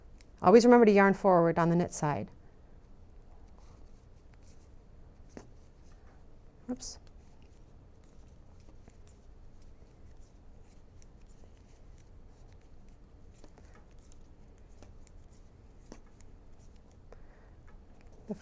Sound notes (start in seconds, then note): 6.0 silence